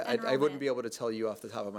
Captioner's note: chuckling